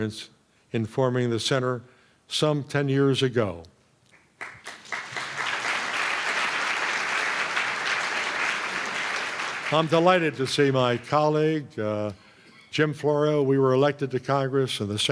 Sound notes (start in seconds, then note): 4.2 applause